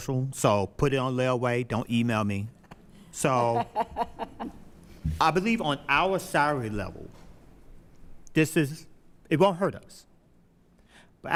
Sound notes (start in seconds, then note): 6.5 laughing